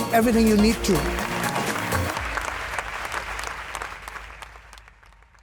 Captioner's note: applause